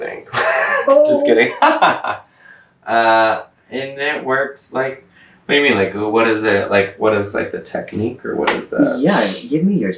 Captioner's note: laughter